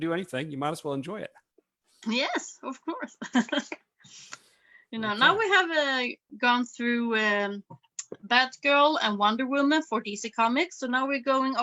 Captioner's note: chuckles